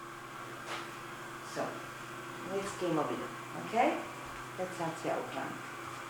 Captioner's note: speaks in foreign language